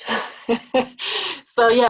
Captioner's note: laughs lightly